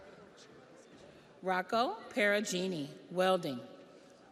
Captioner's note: audience applauds; audience cheers